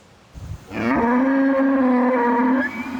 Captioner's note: cow mooing